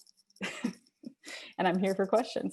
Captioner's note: laughs